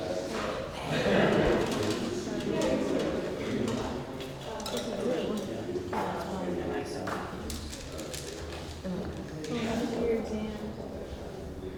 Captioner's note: audience Murmurs